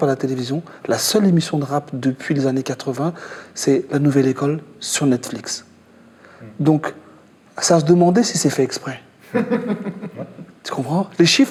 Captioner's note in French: rires